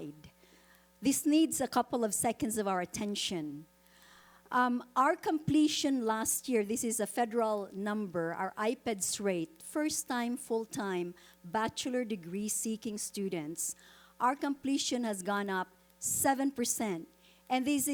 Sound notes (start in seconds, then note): none